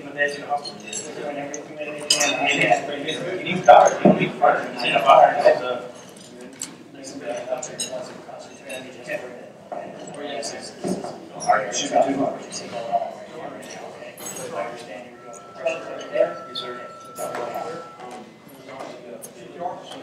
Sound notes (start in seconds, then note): 2.8 mumbling